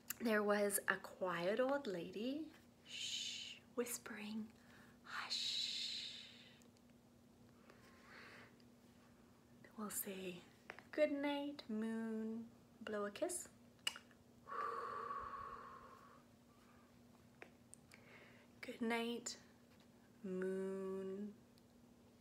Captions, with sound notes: There was a quiet old lady. Shh, whispering, hush. We'll say good night moon, blow a kiss. [kisses] Goodnight, moon.